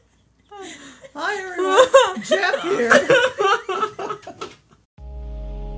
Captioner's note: laughter